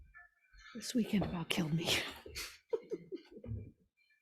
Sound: laughs

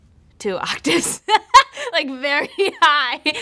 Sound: laughing

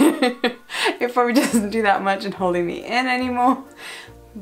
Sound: laughs

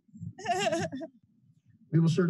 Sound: laughter

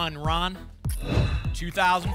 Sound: whoosh

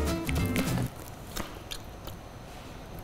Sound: chewing

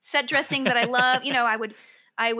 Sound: laughs

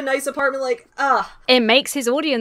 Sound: scoffs

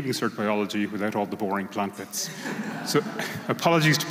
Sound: laughter

